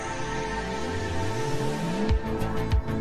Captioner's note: air whooshes